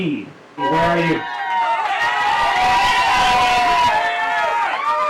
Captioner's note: audience cheering